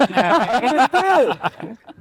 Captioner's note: people laughing